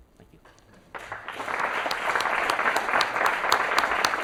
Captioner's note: applause